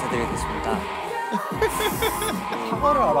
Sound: giggling

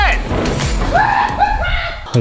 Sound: hollers

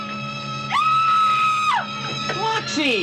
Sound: girl Screaming

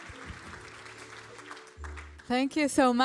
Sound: applause

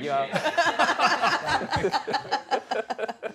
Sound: laughter

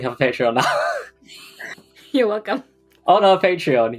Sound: laughing; laughs

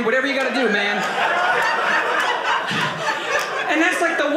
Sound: audience laughing

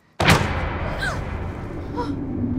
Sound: door shuts

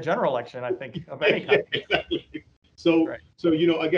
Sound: both laughing

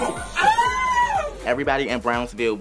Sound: screams

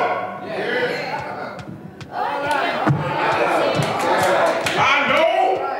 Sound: scattered applause

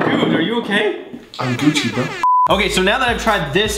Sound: beep

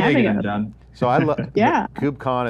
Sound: laughing

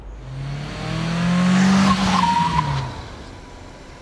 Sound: car engine/tire sounds

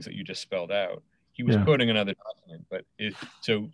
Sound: audio distorts

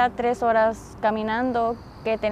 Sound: speaking spanish

